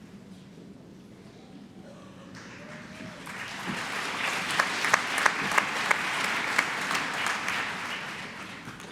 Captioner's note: applause